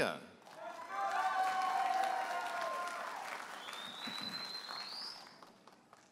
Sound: audience applauding and cheering

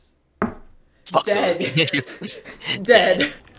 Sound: snickering

